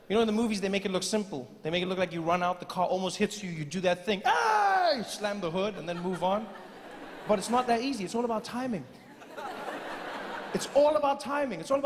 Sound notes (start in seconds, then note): 5.6 audience laughing